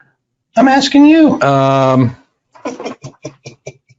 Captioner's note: laughs